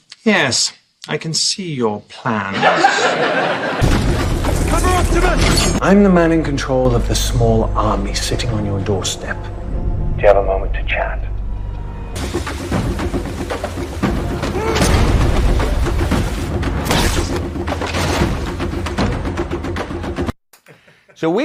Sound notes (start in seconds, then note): 12.1 drum music playing; 14.5 grunt; 16.9 silenced gunshot